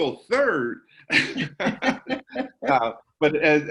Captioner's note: laughs